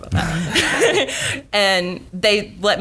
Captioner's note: laughing